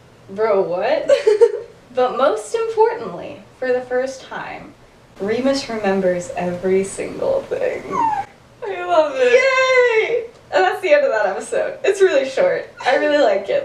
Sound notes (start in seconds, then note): 7.4 squeals